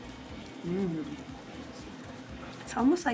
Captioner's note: hums